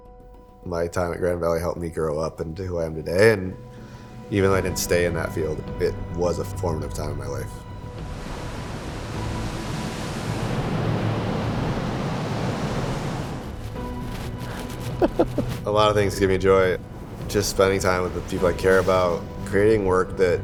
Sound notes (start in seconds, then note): 9.0 waves crashing; 15.0 laughing